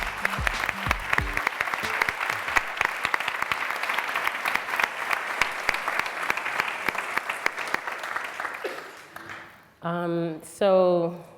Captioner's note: applause